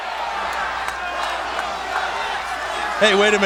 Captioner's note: crowd chanting "Rocky sucks!"